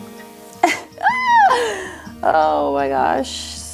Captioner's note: laughs